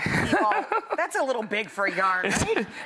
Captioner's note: laughs